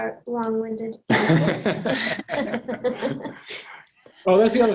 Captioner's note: everyone laughs